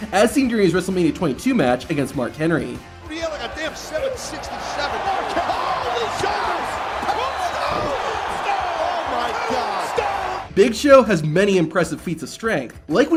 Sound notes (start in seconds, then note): 3.2 crowd clamoring; 7.9 body thuds